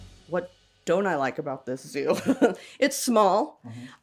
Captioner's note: laughs